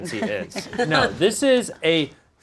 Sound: laughs

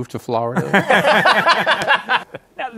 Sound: laughter

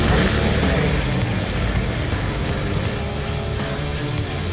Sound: engine humming

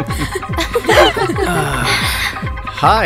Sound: laughs; Chintu sighs

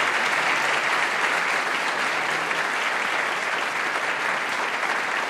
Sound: applause

